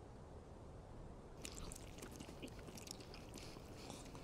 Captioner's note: both slurping